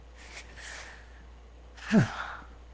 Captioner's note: sigh